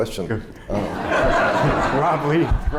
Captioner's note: laughter